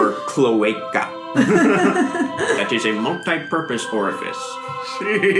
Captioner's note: scientist voice